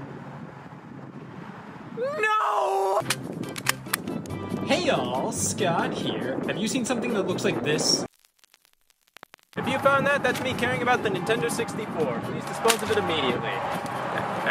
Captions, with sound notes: No! (stapler clicks) Hey all, Scott here. Have you seen something that looks like this? If you found that, that's me caring about the Nintendo 64, please dispose of it immediately.